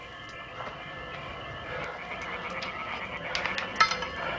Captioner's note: heavy breathing